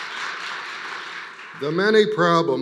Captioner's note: applause